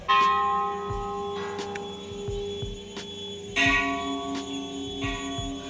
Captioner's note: bell ringing